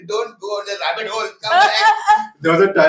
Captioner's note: laughs